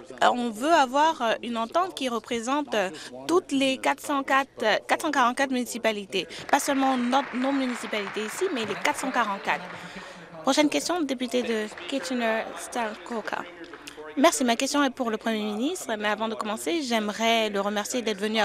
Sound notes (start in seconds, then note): 9.9 applause